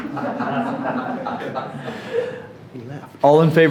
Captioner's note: all chuckling